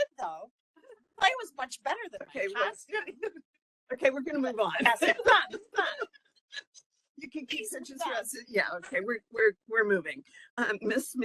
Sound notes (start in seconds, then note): 4.8 laughing